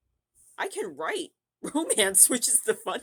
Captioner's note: laughing